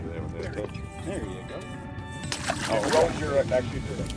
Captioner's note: water splashing